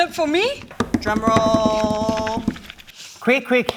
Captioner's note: finger drums